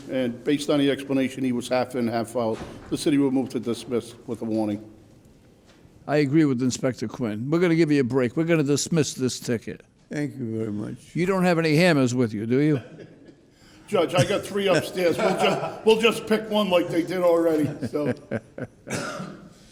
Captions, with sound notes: and based on the explanation, he was half in, half out, the City will move to dismiss with a warning. I agree with Inspector Quinn. We're gonna give you a break. We're gonna dismiss this ticket. Thank you very much. You don't have any hammers with you, do you? Judge, I got three upstairs. (laughing) We'll just pick one like they did already, so.